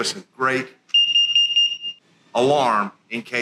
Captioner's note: loud Beeping